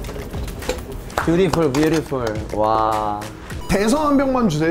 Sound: clapping

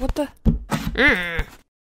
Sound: nnnrg

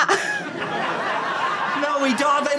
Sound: audience laughter

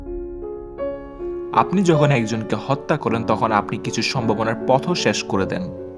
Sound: speaks Bengali

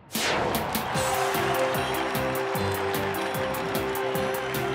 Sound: crowd cheering

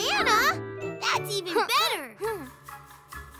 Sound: chuckles

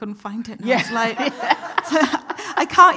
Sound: everyone laughing

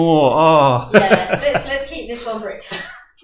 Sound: laughing

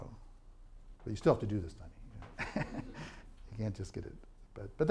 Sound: laughs

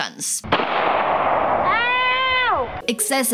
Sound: gun shot

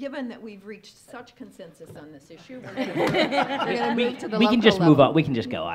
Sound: laughs

